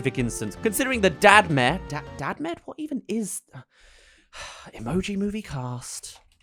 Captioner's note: sigh; typing